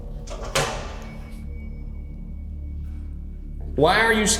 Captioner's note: recorder clatters